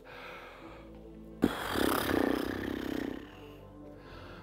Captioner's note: pfffft